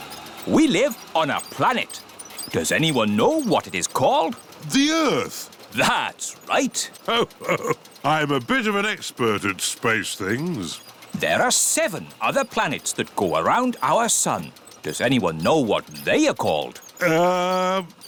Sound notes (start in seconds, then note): 5.7 chuckles